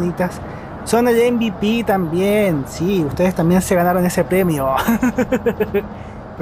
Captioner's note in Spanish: risas